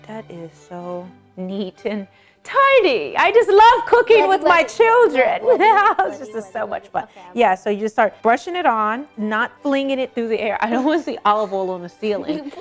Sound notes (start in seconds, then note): 4.1 laughs